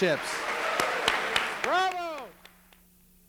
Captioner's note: applause